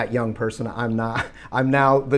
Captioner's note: Rob laughs